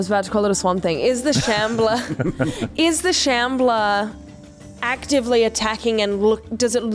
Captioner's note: laughter